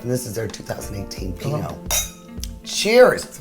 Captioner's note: glasses clink